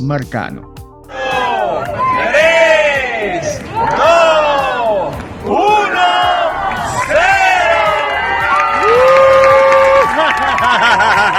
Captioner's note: people shouting and applauding